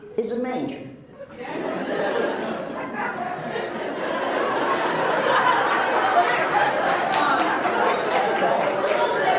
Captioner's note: laughs